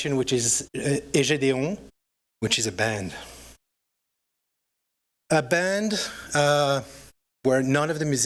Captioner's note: french